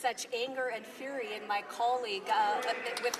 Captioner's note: applause